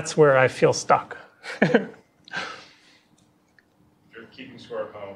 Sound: chuckles

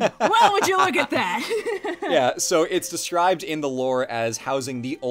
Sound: laughs

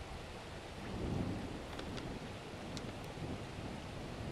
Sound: thunderstorm

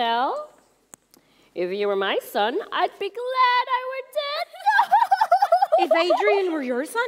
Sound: laughs

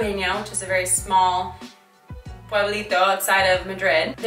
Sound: speaks in foreign language

